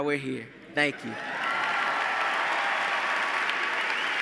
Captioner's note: applause